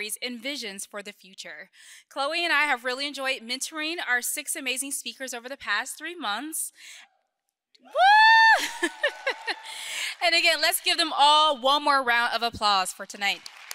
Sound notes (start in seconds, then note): 7.8 cheers; 7.9 audience member cheers; 8.6 audience clapping; 13.5 audience cheering